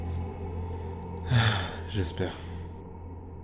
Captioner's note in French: soupire